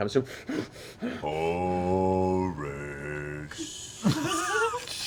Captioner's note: heavy breathing; sing-song